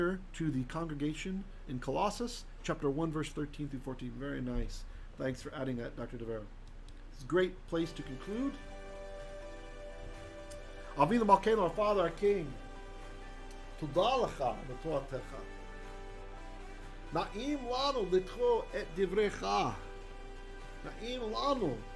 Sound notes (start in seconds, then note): 8.9 hebrew